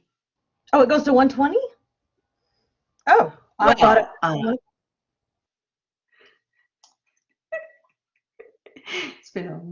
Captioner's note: laughter